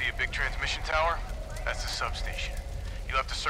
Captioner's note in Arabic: عبر الراديو